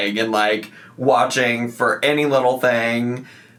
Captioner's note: none